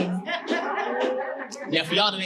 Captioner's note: audience laughing